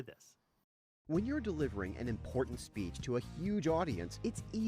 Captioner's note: voiceover